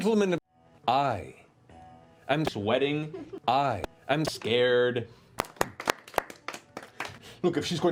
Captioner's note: applause